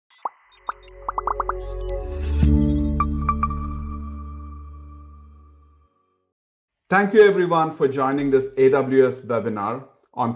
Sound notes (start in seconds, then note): 0.1 graphics popping; 0.2 graphics beeping; 1.6 logo chiming; 2.4 bright music